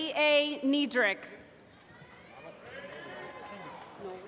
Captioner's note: applause